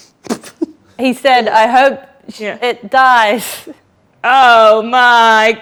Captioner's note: laughs